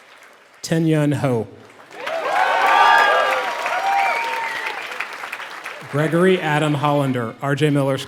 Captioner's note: applause